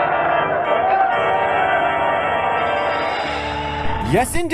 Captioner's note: cheering